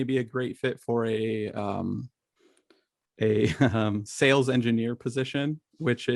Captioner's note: chuckles